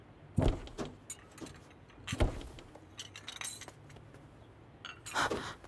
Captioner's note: Door closing